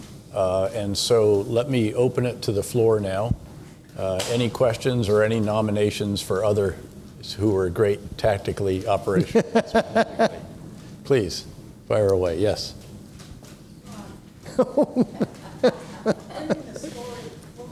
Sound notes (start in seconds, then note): 9.1 laughs; 14.4 laughs